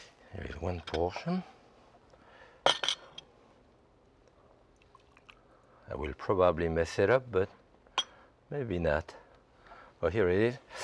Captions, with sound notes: There is one portion. (dishes clanking) I will probably mess it up, but maybe not, but here it is.